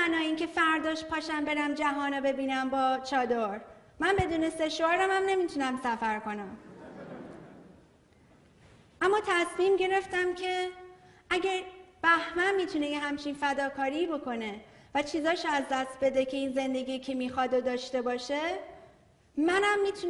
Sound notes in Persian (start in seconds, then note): 6.6 خنده‌ی حضار